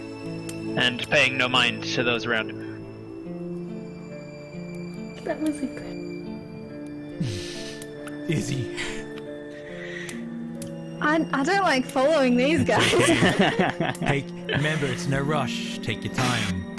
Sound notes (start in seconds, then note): 5.2 whisper; 12.7 all laugh